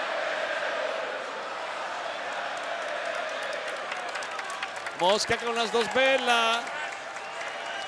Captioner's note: applause